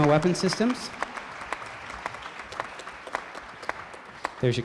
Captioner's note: applause